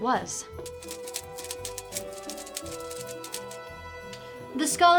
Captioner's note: pages flipping